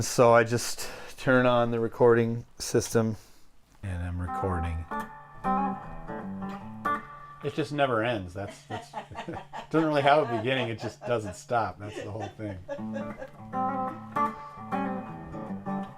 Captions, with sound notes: So I just turn on the recording system. And I'm recording. [playing guitar] It just never ends. That's, it doesn't really have a beginning. It just doesn't stop. That's the whole thing. [woman laughing] [playing guitar]